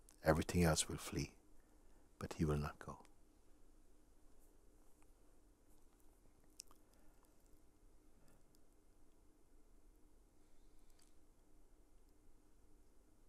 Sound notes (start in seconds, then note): 4.8 long silence